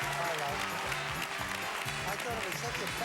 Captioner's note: audience applauding